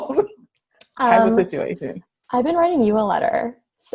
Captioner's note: both laugh